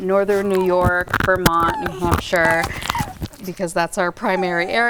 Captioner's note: microphone rustling